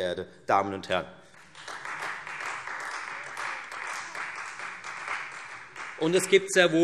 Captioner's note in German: Beifall Freie Demokraten